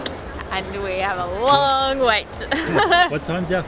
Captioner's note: laughs